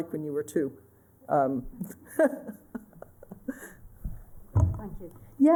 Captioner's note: laughter